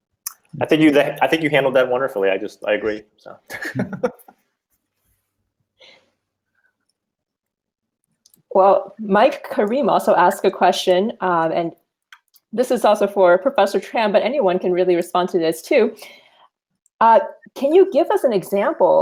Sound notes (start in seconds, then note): 3.5 all laughing